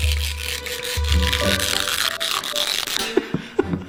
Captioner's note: drill scraping; playful music; chuckling